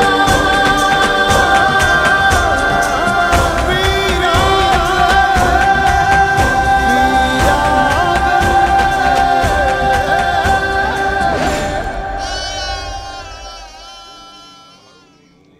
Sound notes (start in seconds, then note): 12.1 goat bleats